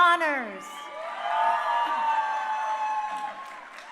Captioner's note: crowd cheering